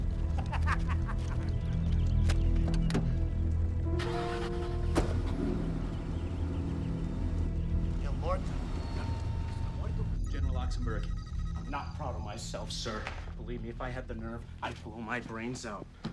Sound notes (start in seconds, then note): 0.3 shooter laughing; 3.9 engine starting